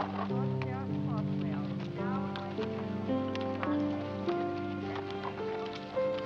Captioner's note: muffled speaking over loudspeaker